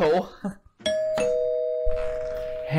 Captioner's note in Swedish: Dörrklockan ringer